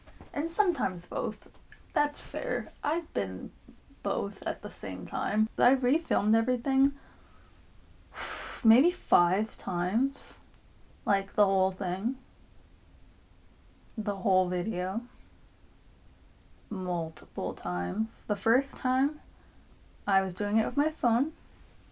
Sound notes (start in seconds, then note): 8.1 exhale